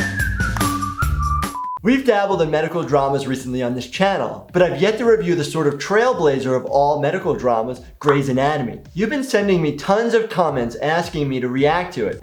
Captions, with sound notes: (beep) - We've dabbled in medical dramas recently on this channel, but I've yet to review the sort of trailblazer of all medical dramas, Grey's Anatomy. You've been sending me tons of comments asking me to react to it.